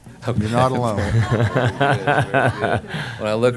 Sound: laughter

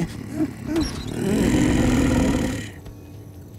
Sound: growling

